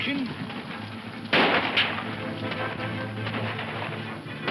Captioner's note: guns firing